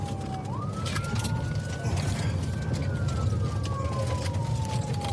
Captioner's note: siren wailing